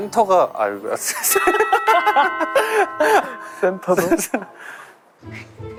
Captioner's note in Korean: 띵동